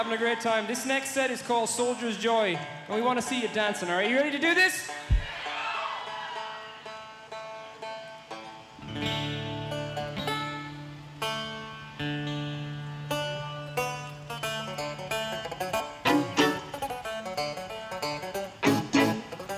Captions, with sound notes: - We're having a great time. This next set is called Soldier's Joy, and we want to see you dancing. Are you ready to do this? (audience cheering) (guitar strumming) (cheerful folk music)